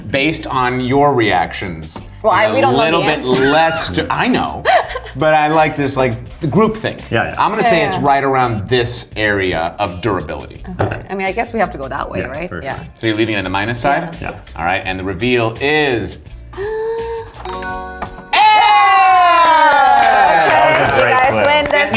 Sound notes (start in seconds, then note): 2.6 laughs; 16.5 gasping; 17.4 tone chiming; 18.2 all cheering; 18.5 all clapping